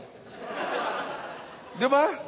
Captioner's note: laughter